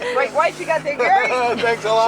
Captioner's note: laughter